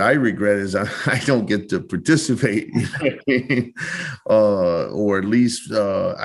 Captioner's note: laughing